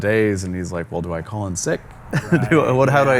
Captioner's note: chuckles